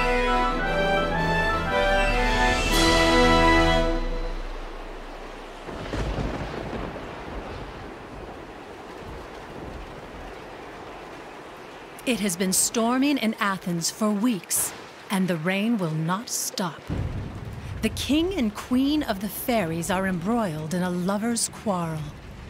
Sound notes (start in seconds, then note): 4.2 sound of storm winds blowing